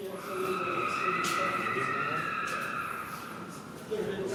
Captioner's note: screaming in distance